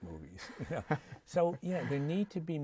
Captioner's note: laughter